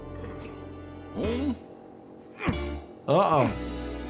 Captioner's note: mysterious music; Lumpy grunting